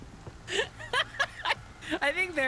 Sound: laughter

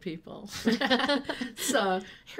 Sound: laughing

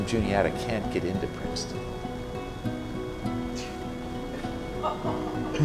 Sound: laughter

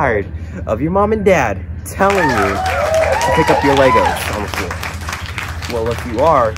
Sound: applaud

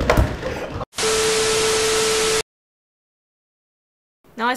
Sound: bars and Tone

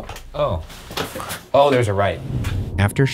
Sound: voice whispers

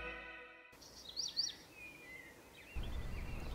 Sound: birds chirping

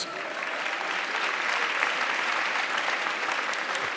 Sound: audience clapping

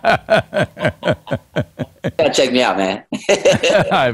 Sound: both laugh

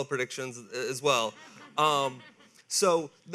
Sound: audience laughing

